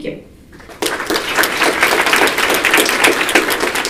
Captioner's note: applause